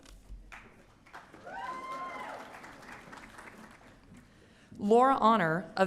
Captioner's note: audience cheering